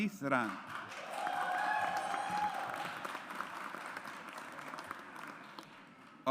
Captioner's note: audience applauds